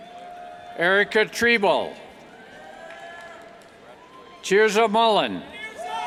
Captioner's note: cheers